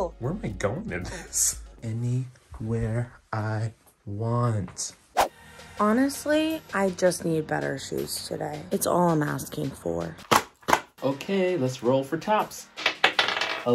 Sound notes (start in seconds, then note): 10.0 tapping paper